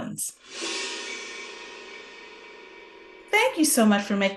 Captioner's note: screen whooshing